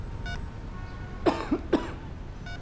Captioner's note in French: Tousse